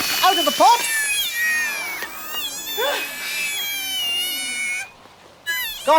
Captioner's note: Mandrake cries